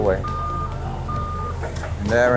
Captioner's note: lift alarm beeps